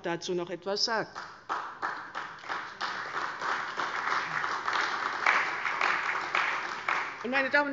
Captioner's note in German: Beifall bei der CDU und dem BÜNDNIS 90/DIE GRÜNEN